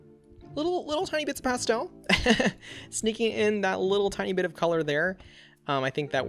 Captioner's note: laughs